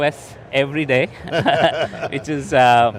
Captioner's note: laughing